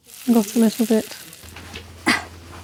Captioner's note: sizzle